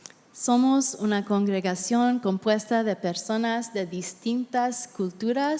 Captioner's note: interpreter speaking in Spanish